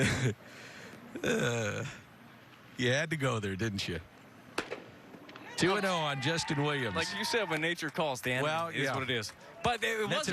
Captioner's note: laughter